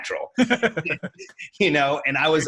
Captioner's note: laughs